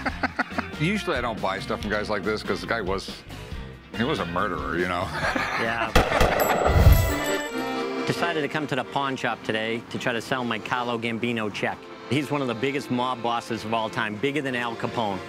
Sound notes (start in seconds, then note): 5.9 gunshots; 6.4 folksy music plays